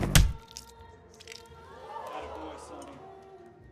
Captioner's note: fist pounding